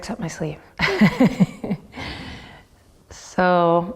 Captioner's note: laughs